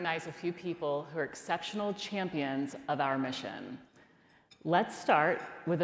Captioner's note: none